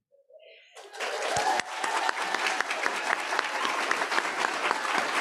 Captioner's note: audience applauding